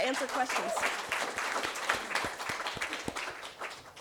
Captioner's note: applause